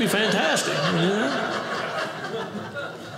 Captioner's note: audience laughing